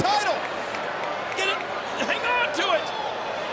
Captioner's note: applause